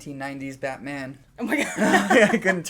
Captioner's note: laughter